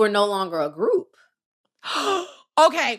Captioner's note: gasp